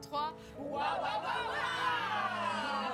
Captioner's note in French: cri de guerre